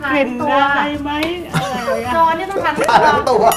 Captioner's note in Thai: หัวเราะ